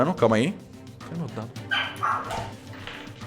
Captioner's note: A dog barks in the background